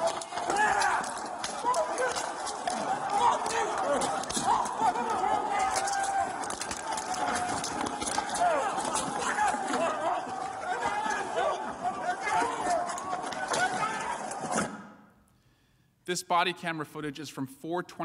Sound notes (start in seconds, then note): 6.6 yelling